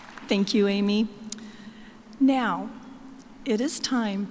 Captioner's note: applause